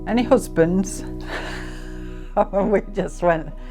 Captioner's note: laughing